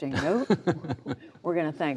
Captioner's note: laughter